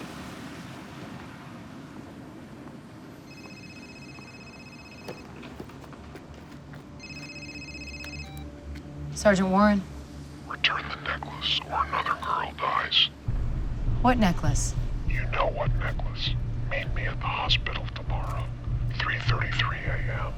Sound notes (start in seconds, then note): 3.2 cell phone rings; 7.0 phone beeps; 9.7 man's distorted voice